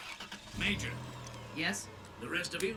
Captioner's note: over comms